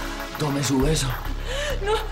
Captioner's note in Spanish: Sollozos